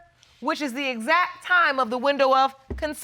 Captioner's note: none